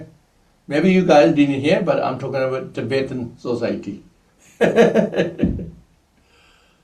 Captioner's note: laughs